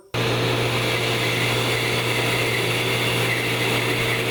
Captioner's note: saw humming